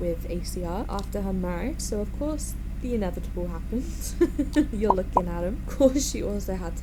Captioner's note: chuckles